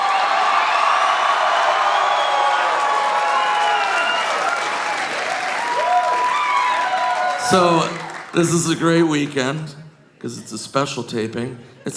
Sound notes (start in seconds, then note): 0.3 audience cheering; 3.0 audience applauding